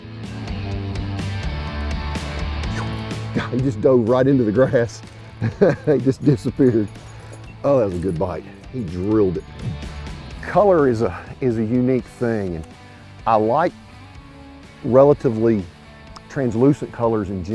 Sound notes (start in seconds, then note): 0.2 upbeat rock music continues; 4.4 laughing